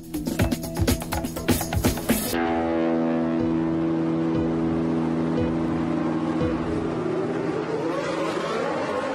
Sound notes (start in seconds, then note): 0.0 energetic music; 5.4 cars engine roaring